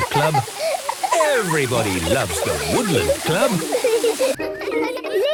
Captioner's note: laughter